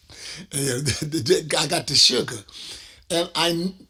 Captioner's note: laughs